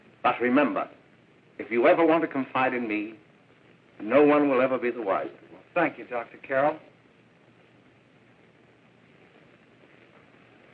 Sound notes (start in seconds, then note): none